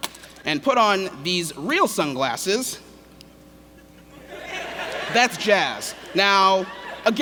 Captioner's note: laughter